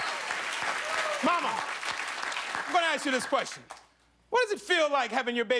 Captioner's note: cheers and applause